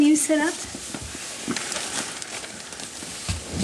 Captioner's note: lots of tent wrinkling noises